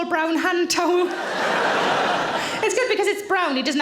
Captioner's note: audience laughing